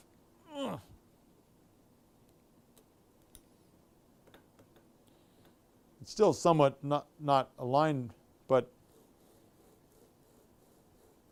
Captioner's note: grunts